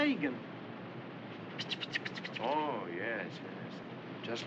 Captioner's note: imitates Rain Falling